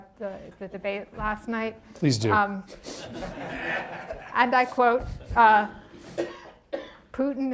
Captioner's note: laughter